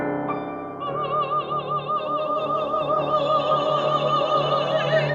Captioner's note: all vocalizing